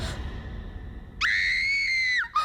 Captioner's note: Reenactment Bryn screams